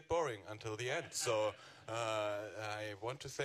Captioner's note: all laughing